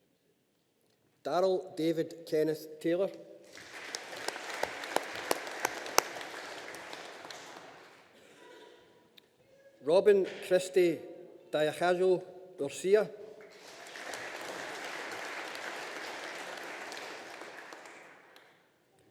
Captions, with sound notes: Daryl David Kenneth Taylor. (AUDIENCE APPLAUDING) Robyn Christie Diacajo Urcia. (AUDIENCE APPLAUDING)